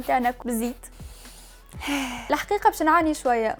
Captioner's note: inhales, exhales